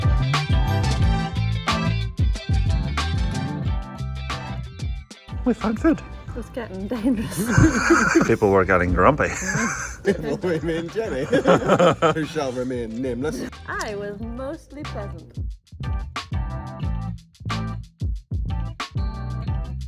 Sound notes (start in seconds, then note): 7.0 all laughing